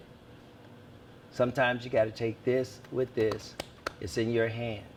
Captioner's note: claps hands